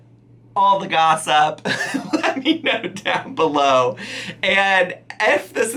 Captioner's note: laughing